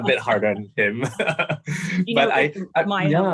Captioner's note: laughs